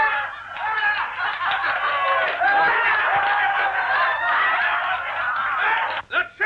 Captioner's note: laughter and cheering